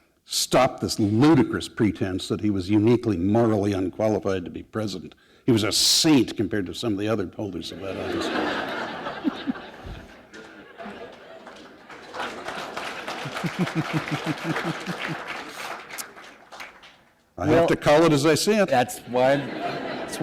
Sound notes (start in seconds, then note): 8.4 laughter; 8.6 applause